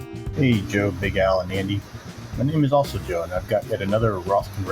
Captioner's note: voice message